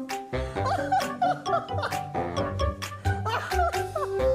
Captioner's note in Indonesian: tertawa